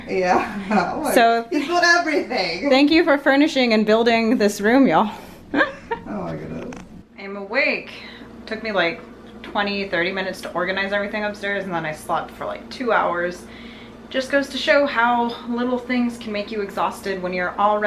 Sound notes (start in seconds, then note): 5.5 laughs